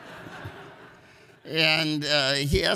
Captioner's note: audience laughs